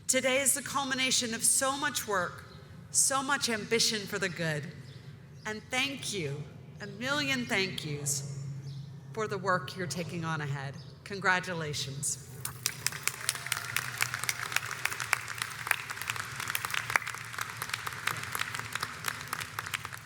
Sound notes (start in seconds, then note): 12.4 audience applauds